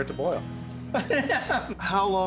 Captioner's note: laughing